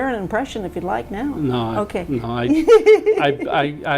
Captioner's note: laughs